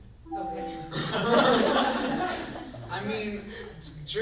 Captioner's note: group laughs